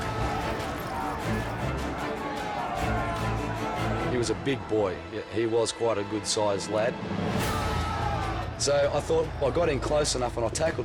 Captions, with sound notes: (bikers chanting) - He was a big boy. He was quite a good-size lad. So I thought I got in close enough and I tackled him